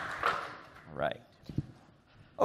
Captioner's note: applause